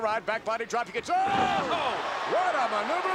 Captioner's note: commentators exclaim